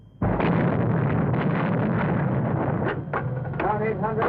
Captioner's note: loud explosions